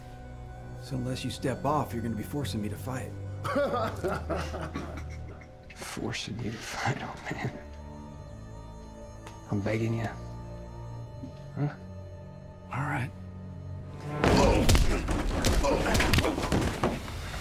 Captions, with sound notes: SO UNLESS YOU STEP OFF, YOU'RE GONNA BE FORCIN' ME TO FIGHT. [LAUGHING] FORCING YOU TO FIGHT, OLD MAN? I'M BEGGIN' YA. HUH? ALL RIGHT. [STOMP] [PUNCH] [PUNCHING]